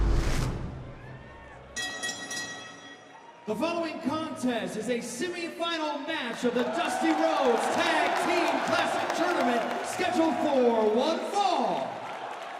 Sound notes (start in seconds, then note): 1.7 bell ringing; 11.5 cheers and applause